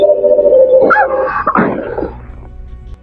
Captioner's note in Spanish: Plaf